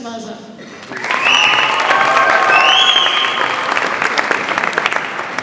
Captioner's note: audience applauds and cheers